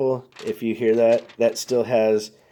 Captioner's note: note crackling